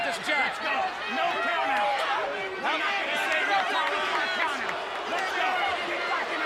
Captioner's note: speaks faintly